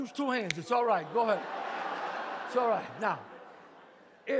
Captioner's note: audience laughs